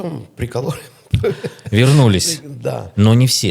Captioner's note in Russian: смех